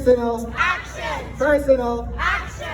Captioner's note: crowd